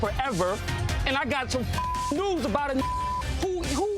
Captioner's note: beep